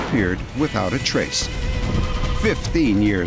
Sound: phone ringing

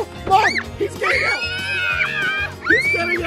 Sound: screaming

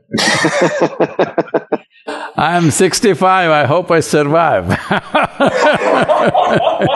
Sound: laughter; laughter

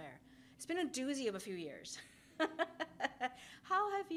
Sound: laughs

